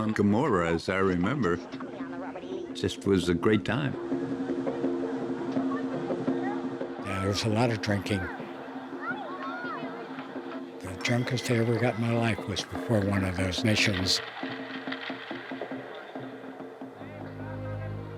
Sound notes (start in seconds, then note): 3.7 drumming, laughter; 13.7 ice rattling